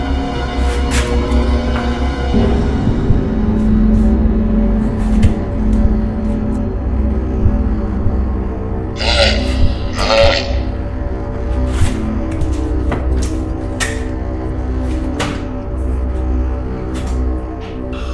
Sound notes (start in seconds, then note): 8.9 Skinwalker grunting